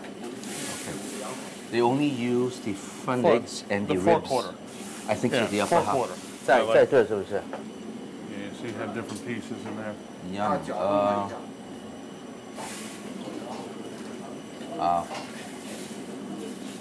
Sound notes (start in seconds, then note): 6.3 speaking Chinese; 12.1 ambient kitchen noise